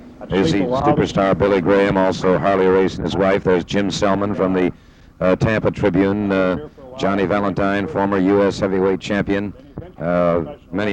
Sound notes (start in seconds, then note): 1.7 people chattering distantly; 9.6 chattering distantly